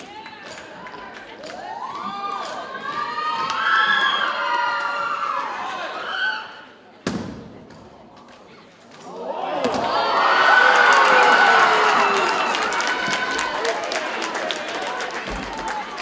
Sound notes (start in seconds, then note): 0.3 audience cheers and applauds; 7.5 audience cheers and applauds; 7.5 cadets thumping